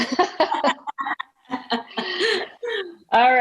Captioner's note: laughing